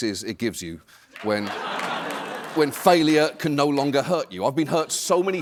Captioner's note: laughter